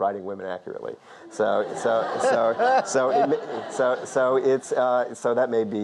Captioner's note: audience laughs; Lord King laughs